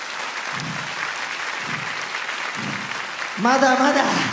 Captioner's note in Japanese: 大きな拍手